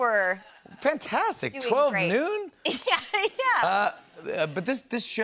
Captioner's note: chuckles